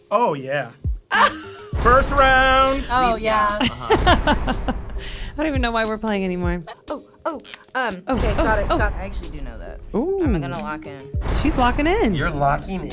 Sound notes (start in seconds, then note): 1.1 laughing; 3.5 laughing